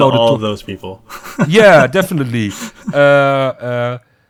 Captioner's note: laughs